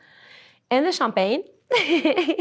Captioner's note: laughs